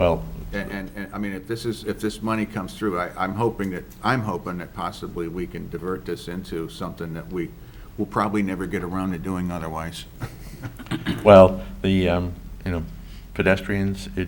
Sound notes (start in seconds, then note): 10.1 laughs